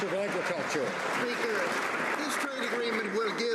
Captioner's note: some Applause